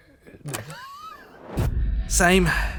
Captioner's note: laughs; tape clicks; soft, ominous music